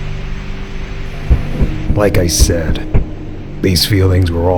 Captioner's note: knock at door